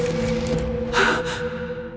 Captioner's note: gasp